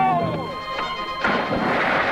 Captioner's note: man speaking in Spanish; water splashing; man speaking in Spanish